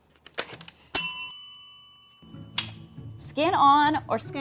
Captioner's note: bell ringing